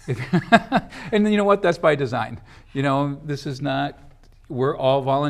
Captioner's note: laughs